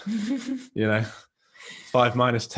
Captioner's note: chuckles